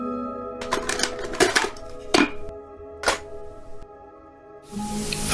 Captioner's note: cassette player clicking